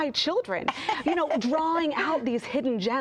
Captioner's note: laughs